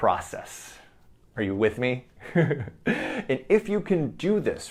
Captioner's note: chuckles